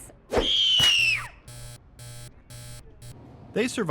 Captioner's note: person screaming; buzzer buzzing